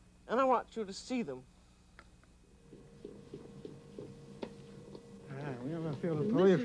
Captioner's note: speaking french